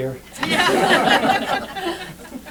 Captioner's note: laughter